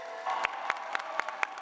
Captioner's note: cheers and applause